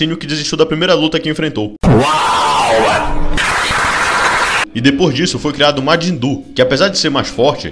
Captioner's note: wow clap